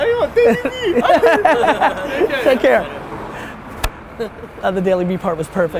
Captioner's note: laughs